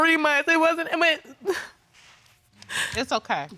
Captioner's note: sniffles